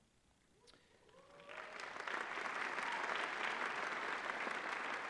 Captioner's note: applause